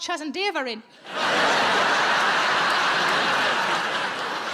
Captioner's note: audience laughs